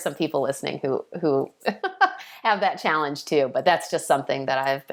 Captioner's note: laughing